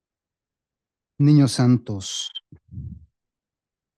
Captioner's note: speaking spanish